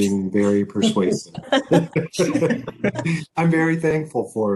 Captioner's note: both laugh